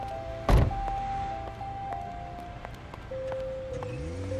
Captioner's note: door clattering; footsteps plodding; engine roaring; tires screeching